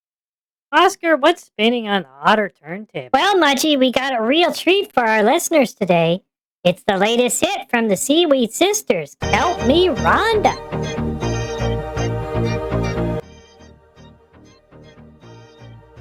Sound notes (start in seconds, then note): 3.2 excitedly; 10.9 random banter while music plays in background